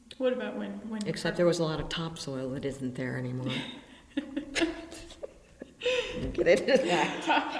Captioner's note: BOTH laugh